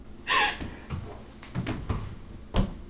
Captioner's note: Mary sobs